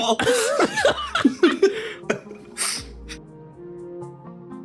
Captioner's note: laughs